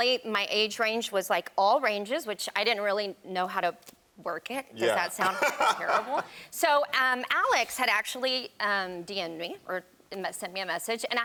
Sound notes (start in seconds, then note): 5.2 chuckles